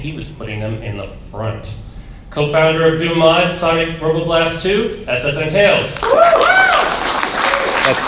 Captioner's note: applause